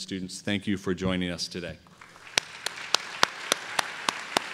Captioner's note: applause